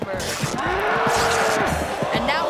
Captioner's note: pants ripping; bull bellowing